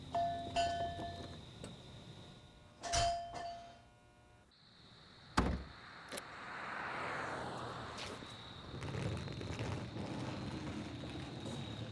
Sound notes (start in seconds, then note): 0.1 door bell; 5.0 trunk shuts; 8.6 luggage rolling